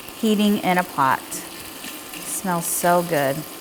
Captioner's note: oil sizzling